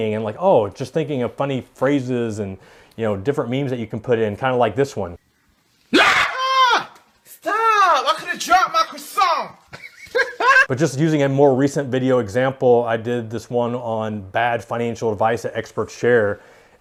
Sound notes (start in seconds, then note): 5.9 screaming